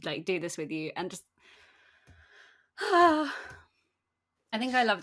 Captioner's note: sighs